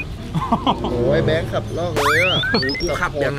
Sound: chuckles

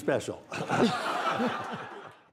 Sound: laughter

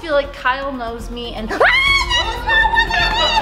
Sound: screaming

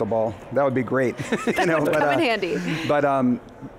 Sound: chuckles

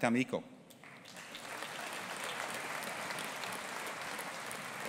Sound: audience applauding

